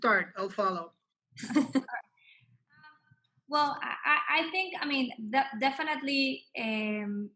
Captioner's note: laugh